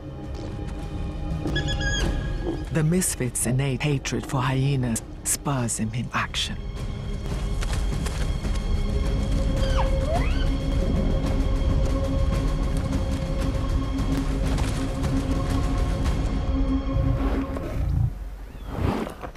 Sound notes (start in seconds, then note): 1.5 hyena whining; 9.4 hyena calling